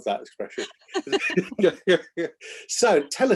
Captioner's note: both laughing